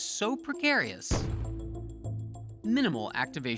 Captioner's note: muffled puff